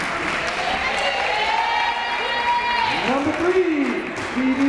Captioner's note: crowd cheering